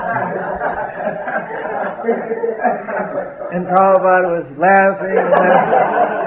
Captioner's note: laughter